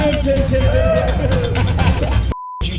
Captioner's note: laughing